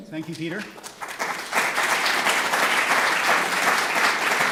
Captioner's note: applause